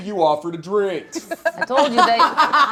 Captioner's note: laughing